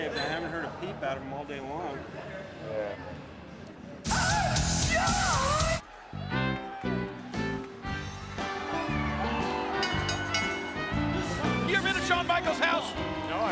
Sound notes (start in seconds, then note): 5.8 crowd chattering; 6.2 gentle music; 9.1 bell rings; 9.2 audience cheering